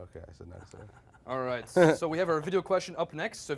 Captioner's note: laughing